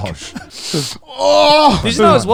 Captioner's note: laughing